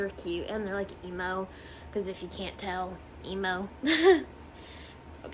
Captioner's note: laughs